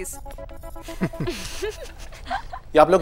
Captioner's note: Both giggling